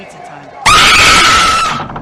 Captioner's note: scream